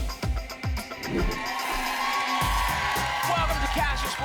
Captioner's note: applause and cheering